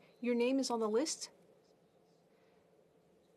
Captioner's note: speaking French